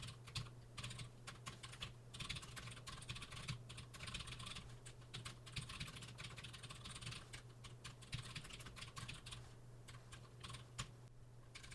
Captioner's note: typing sounds